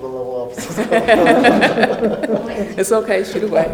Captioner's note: laughing